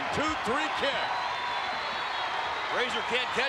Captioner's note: spectators cheering